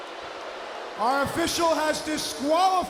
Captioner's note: crowd chatter